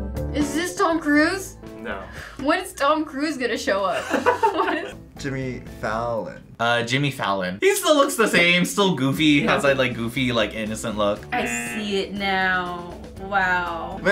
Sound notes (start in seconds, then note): 4.0 React laughs